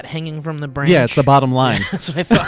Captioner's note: laughs